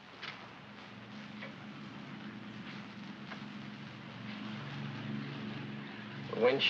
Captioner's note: aircraft rumbles in distance